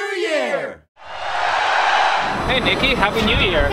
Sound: cheering

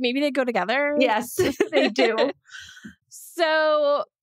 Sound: laughs

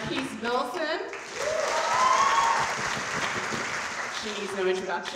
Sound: audience cheering

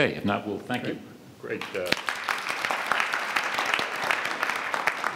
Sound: audience applauds

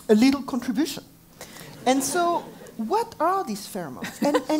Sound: laugh; laugh

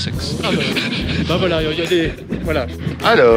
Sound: laugh

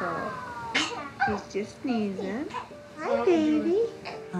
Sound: sneezes

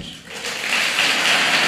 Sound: applause

